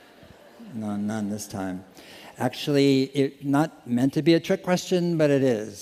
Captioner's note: laughter